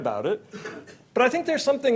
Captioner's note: audience member coughs